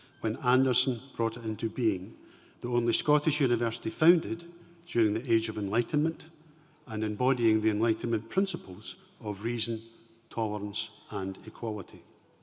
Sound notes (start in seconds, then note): none